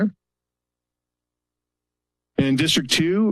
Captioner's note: pause